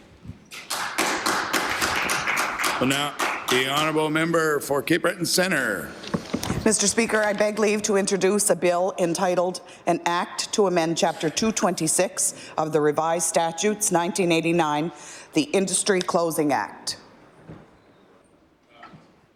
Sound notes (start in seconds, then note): 4.9 applause